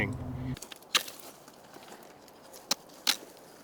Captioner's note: whittle sounds